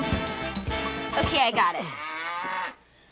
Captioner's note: cow moos